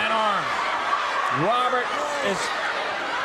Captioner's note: crowd cheering